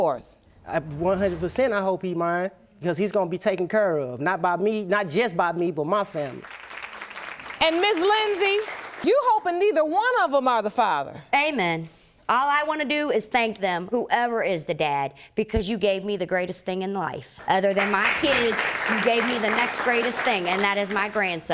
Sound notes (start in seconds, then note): 6.2 audience applauding